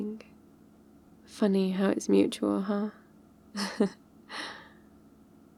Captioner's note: laughs